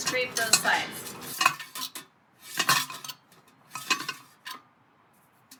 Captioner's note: spinning noise